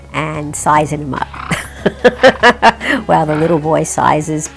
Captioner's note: she laughs